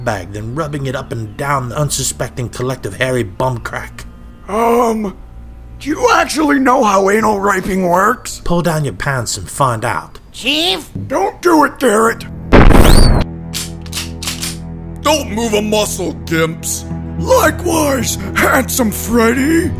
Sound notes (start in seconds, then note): 12.5 explosion; 13.5 guns cocked